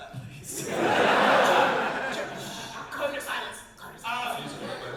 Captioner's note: audience laugh